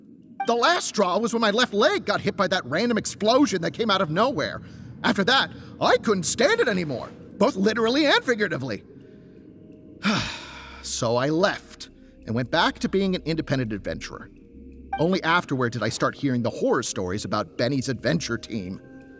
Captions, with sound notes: The last straw was when my left leg got hit by that random explosion that came out of nowhere. After that, I couldn't stand it anymore... both literally and figuratively. *sigh* So I left... and went back to being an independent adventurer... Only afterward did I start hearing the horror stories about Benny's Adventure Team...